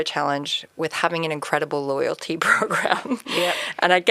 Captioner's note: chuckles